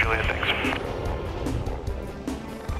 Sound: helicopter engine roaring; upbeat music

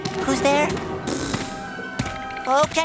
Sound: raspberry sound

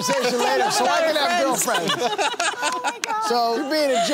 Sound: laughter

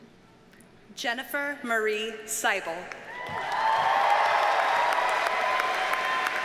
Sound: audience cheers and applauds

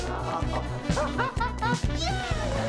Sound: laughing

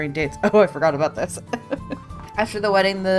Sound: laughs

